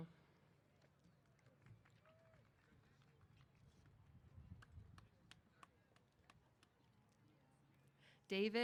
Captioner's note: applause